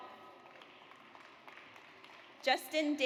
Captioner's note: audience applauds